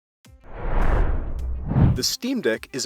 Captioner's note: intro swoosh